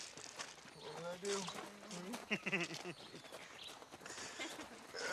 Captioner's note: laughing; nate grunts